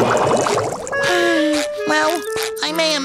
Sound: sighing

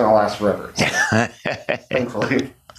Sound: laughs

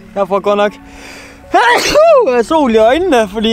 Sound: sneezes

